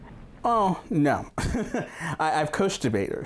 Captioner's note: laughs